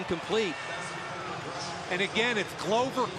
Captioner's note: pa announcement